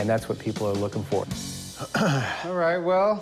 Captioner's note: clears throat